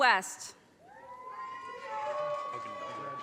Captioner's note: audience cheers and applause